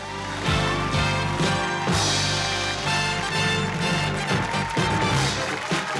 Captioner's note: cheers, applause; theme music playing